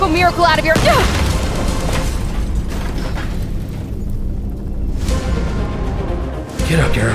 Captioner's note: cannon shot, wood debris flying, Pilot and Elizabeth knocked out